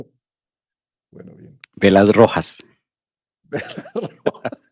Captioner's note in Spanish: risas